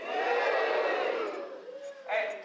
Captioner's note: cheers